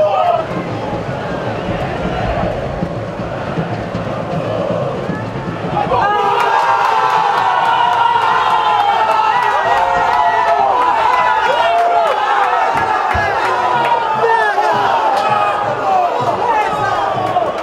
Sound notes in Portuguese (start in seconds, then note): 0.5 sons da torcida; 6.0 gritos de gol; 10.5 sons da torcida